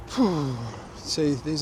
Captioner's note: sighs